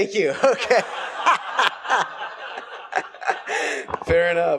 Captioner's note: laughing and laughter